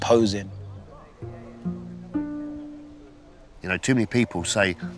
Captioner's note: men chattering